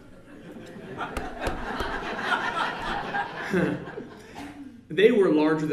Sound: laughter

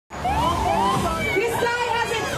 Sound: faint siren wailing

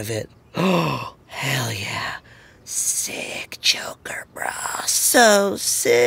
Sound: gasps

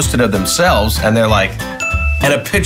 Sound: bell rings

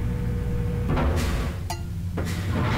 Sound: clank

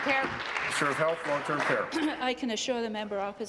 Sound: applause

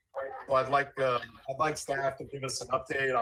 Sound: audio distortion

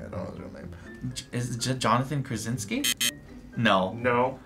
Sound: buzzer

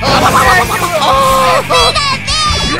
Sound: even more screaming

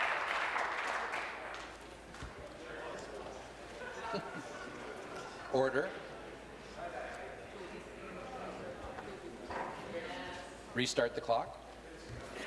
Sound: applause

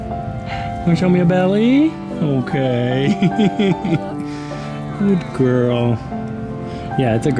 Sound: giggles

